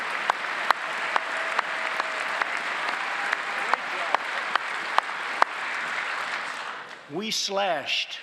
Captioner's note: applause